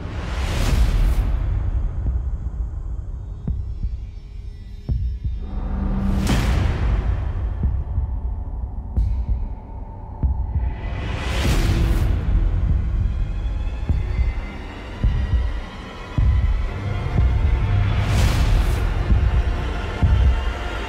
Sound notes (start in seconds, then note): 0.3 atmosphere whooshing; 4.1 eerie music; 7.2 heartbeat thumping; 13.4 music intensifying